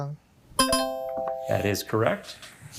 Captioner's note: buzzer ringing; bell ringing